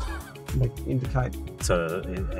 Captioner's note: chuckling